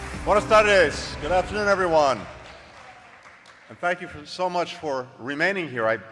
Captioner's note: applause